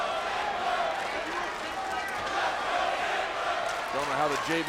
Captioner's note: audience chanting and applauding